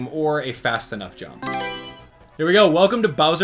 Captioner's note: Mario Selection Sound